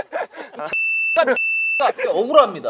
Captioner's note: cussing